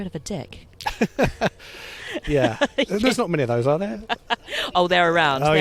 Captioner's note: laughs